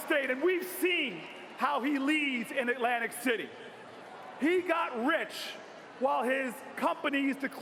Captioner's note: cheers and applause